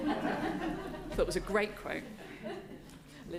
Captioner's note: audience laughing